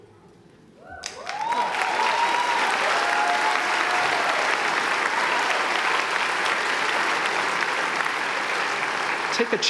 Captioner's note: applause